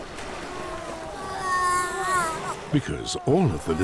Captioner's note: seal moans